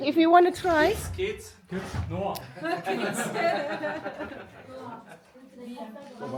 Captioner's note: laugh